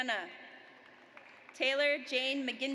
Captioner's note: audience applauds